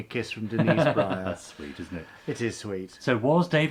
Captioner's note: laughs